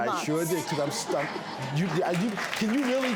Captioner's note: audience laughs; audience applauds